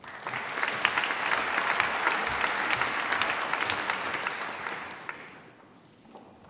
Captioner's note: applause